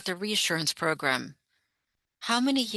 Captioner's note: speaking French